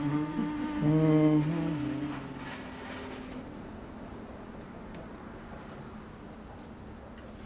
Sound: people are humming

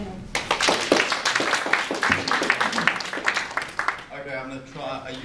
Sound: audience applause

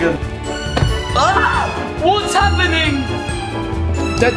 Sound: screams

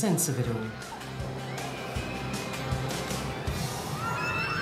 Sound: children cheering

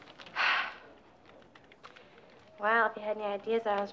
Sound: sighs

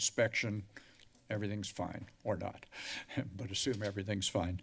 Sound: chuckles

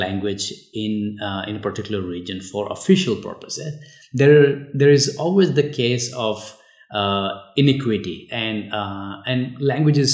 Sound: uh

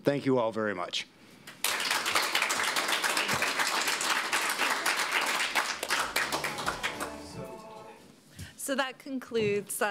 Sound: applause

